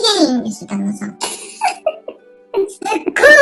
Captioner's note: laughs